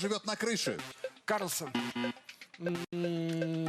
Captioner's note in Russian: пи-пи